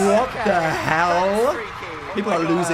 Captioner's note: audience cheering